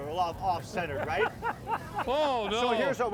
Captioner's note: laughing